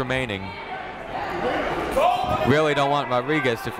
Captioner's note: people shouting in the crowd